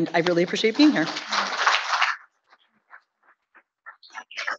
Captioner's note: audience clapping